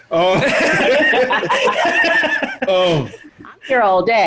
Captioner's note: all laughing